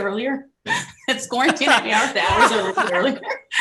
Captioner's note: laughing drowns out speaker